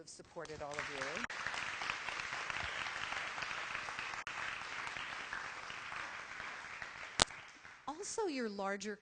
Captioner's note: applause